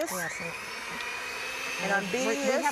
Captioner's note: beater grinding